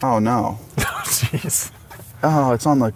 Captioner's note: laughs